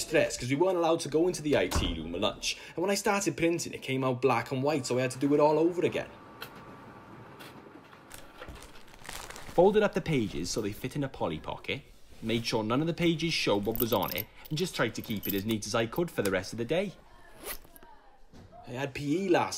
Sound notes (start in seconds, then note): 7.1 sound of paper printing